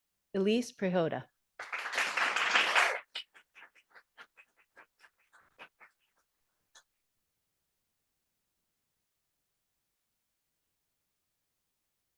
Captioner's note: audience applauding